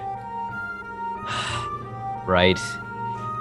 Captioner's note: sigh number six